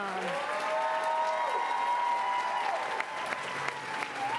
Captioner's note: applause